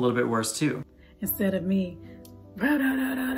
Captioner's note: grumbling